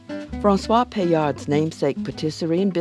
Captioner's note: voiceover